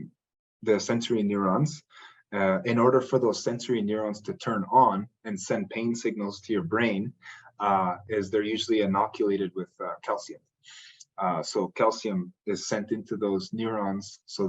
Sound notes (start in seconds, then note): none